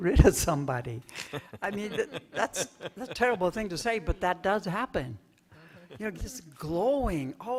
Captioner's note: laughter